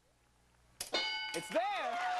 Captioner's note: bell dinging